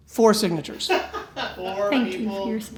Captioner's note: laughing